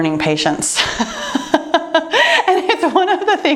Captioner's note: laughing